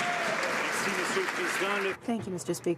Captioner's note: some Applause